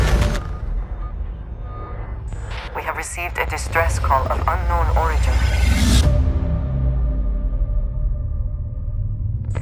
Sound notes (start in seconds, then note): 2.8 woman on radio